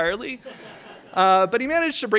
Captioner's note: laughs